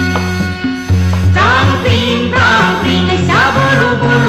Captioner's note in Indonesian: menirukan bunyi alat musik